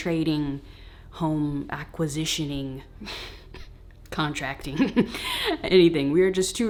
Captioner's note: laughing